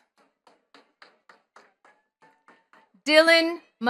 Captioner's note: attendees clapping